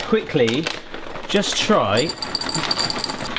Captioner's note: chocolate rattling in bowl; packet rustling